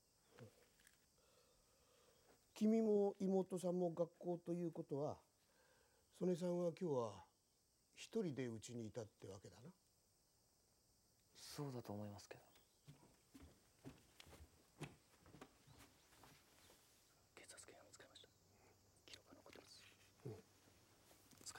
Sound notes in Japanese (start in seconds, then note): 12.8 足音